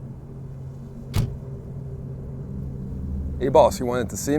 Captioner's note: car door thudding